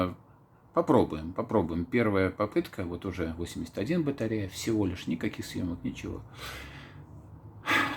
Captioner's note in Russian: Глубокий вздох